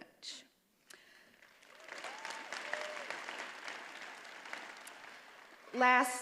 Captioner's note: attendees applauding